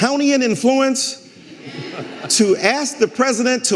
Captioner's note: audience laughing